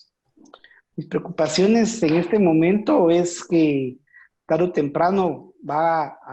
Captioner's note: speaking foreign language